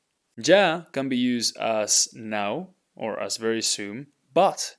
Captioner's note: speaking in Spanish